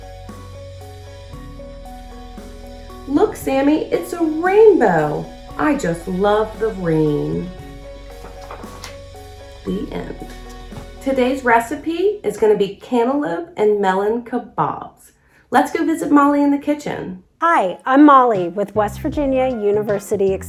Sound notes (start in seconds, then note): 7.2 uplifting instrumental music; 8.1 pages shuffles; 10.2 uplifting instrumental music